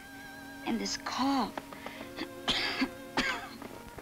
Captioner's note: coughs